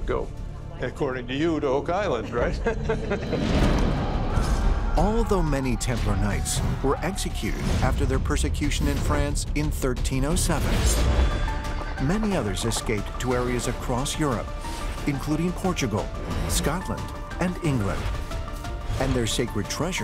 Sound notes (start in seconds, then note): 2.2 laughter